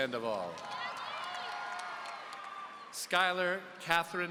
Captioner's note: audience cheering